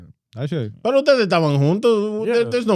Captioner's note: speaking In Foreign Language